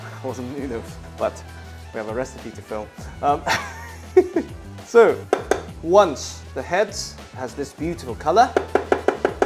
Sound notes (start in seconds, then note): 3.4 chuckles